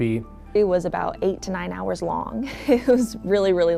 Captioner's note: chuckles